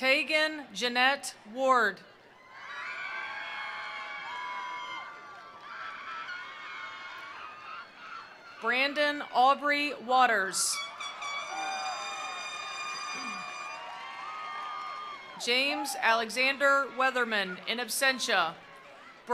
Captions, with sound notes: Tegan Jeanette Ward. (attendees applauding) (attendees cheering) Brandon Aubrey Waters. (attendees applauding) (attendees cheering) James Alexander Weatherman in absentia.